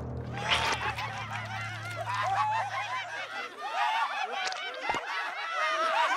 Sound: laughing hysterically

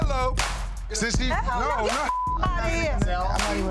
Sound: beep

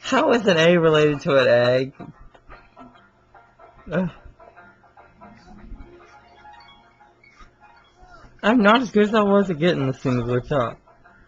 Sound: laughs

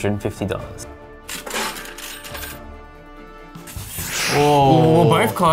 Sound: change dispensed sound effect

